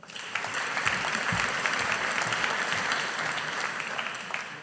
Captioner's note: audience applauding